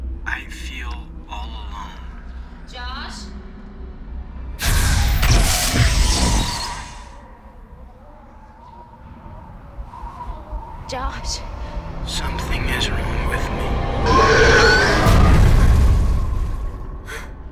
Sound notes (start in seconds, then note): 4.5 startling music; 8.8 wind whistling; 14.0 Mattie screaming; 14.8 Mattie gasping